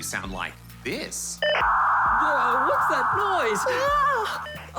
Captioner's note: loud static, beeping